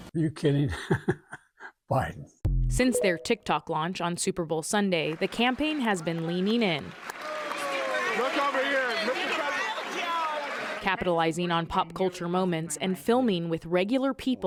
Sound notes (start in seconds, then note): 0.7 laughter; 8.2 cheering and applause